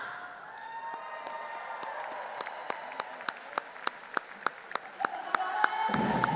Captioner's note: audience applauding and cheering; lively percussion music